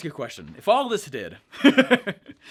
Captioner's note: laughs